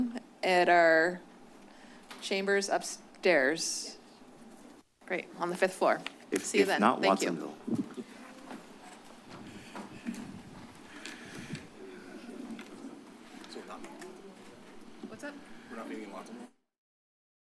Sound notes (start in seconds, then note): 8.1 shuffling sounds; 13.7 indistinct chatter; 16.6 silence